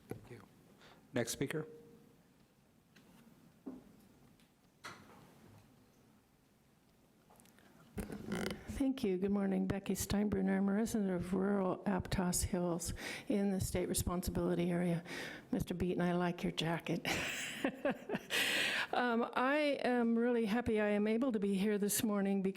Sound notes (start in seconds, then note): 17.1 laughs